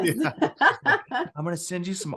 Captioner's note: laughs